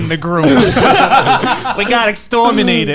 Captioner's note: all laughing